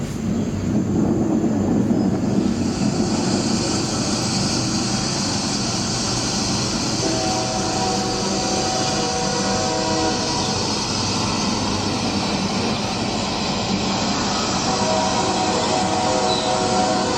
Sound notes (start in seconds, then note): 3.1 background ambient sounds in the landscape; 5.9 background ambient sounds in the landscape, sound train whistle